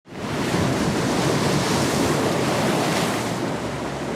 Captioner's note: waves crashing